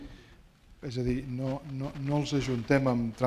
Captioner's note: speaking spanish